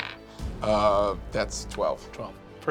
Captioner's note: dice bouncing